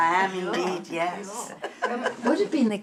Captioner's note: laughter